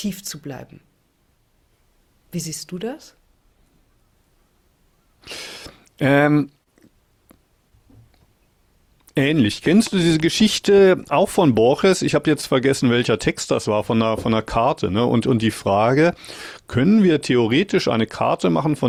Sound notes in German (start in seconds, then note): none